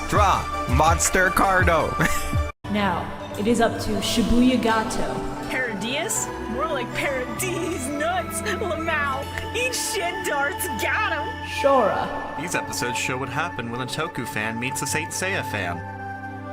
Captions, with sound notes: "Draw! Monster cardo!" (laughter) Now it is up to ShibuyaGato... "Paradius? More like Para-Deez Nuts! (laughing) "lmao! Eat shit, Dartz! GOTTEM!" Shorah... "These episodes show what happens when a Toku fan meets a Saint Seiya fan.